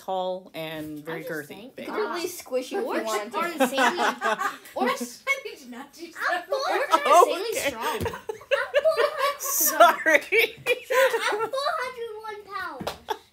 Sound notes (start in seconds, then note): 2.0 inaudible laughter